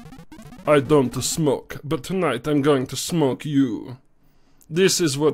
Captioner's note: foreign accent